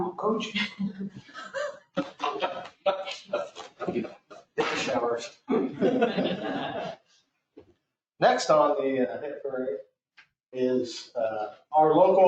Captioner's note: laughter